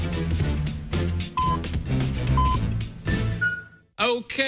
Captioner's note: electronic beeping